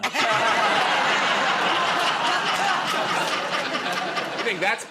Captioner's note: laughter